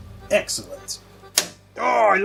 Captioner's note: clunk